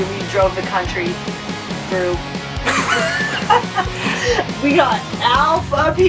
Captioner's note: laughs